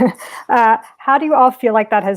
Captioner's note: chuckling